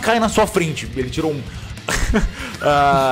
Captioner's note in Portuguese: riso; risos